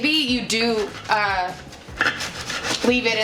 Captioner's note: cutting